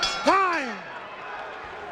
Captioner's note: bell rings